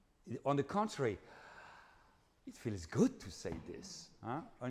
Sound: breathes deeply

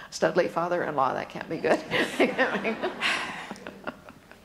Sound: laughs

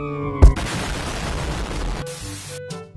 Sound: explostion

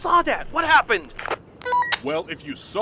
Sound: walkie talkie

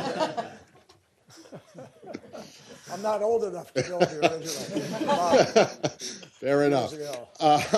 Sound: laughter; laughter

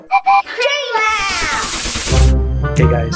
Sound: whistle toots

